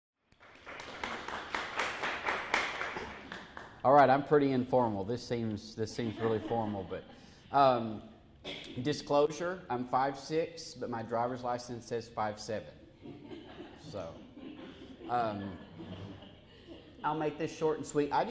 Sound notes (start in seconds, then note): 0.3 applause; 12.9 laughter